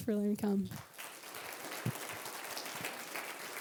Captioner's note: applause